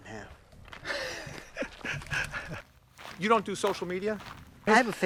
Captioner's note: laughs